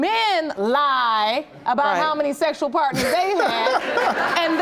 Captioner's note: laughing